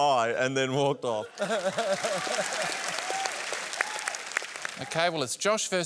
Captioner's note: applause